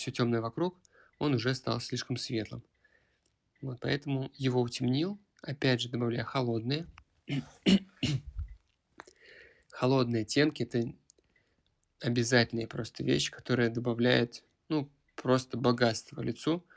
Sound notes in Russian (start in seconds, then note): 7.2 кашель; 7.3 откашливается